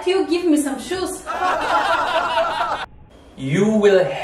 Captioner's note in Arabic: يضحك